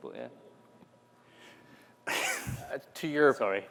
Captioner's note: laughter